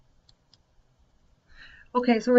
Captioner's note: computer mouse clicks